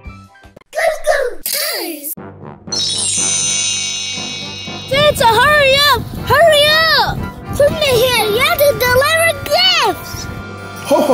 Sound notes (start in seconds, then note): 2.8 wind chimes sound effect